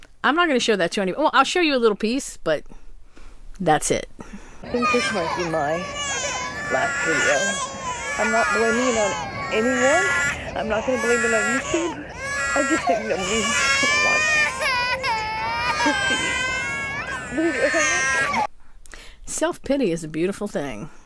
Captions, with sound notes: I'm not gonna show that to you. Oh, I'll show you a little piece but that's it. (babies crying) I think this is my last video. I'm not blaming it on anybody. I'm not blaming it on YouTube. I just think nobody wants to see the videos I make. self pity is a beautiful thing.